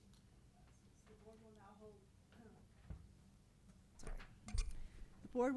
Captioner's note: board members chattering